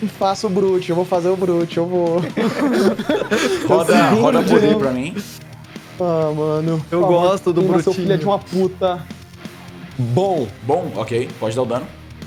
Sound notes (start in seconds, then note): 2.2 laughs